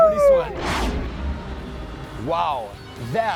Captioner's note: swish